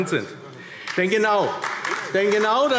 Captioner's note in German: Beifall AfD